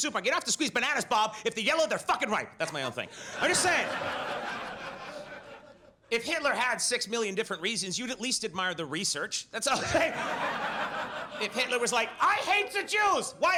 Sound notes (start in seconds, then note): 2.6 audience laughs; 9.7 laughs; 9.7 audience laughs